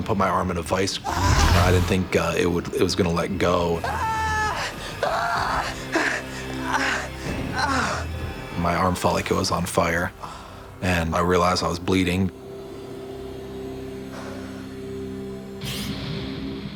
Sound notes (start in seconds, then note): 3.8 screaming